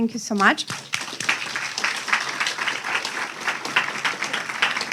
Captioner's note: everyone applauding